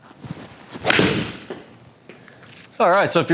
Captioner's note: ball cracking